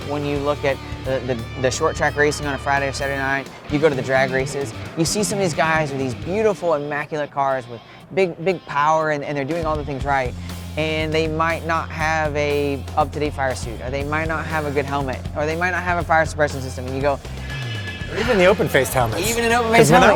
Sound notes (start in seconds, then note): 17.2 sighs